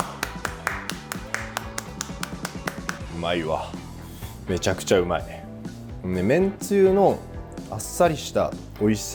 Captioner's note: clap